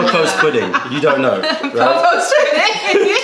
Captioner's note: laughter